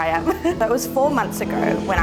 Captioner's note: chuckles